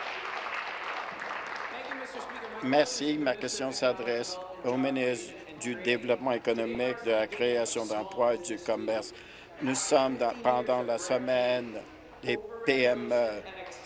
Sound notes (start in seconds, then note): 2.3 applause